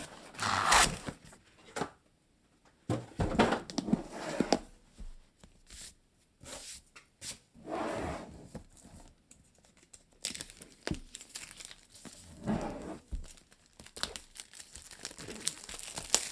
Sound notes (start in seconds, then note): 10.0 plastic rustling